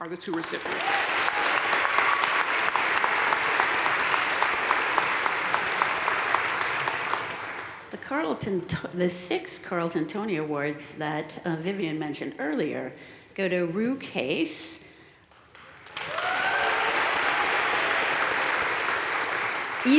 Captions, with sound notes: are the two recipients. (audience cheering and applauding) - The six Carleton Tony Awards that Vivian mentioned earlier go to Ru Case, (audience cheering and applauding)